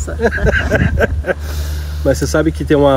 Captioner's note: laughs